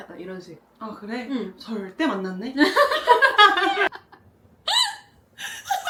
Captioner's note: laughter